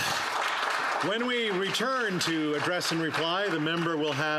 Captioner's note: applause